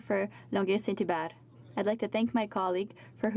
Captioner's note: speaking french